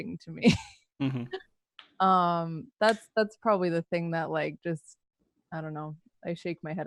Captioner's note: laughs